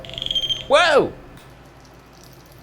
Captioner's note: wire beeps